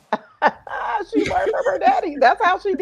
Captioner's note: laughing